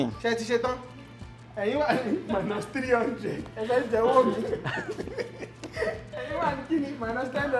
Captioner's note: laughs